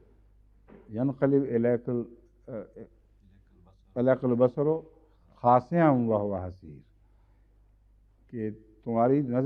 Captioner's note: Arabic